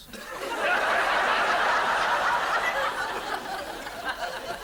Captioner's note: audience laughs